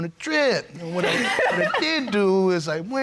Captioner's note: laughing